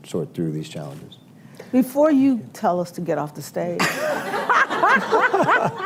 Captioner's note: laughter